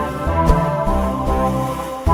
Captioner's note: woosh